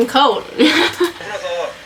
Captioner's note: laughs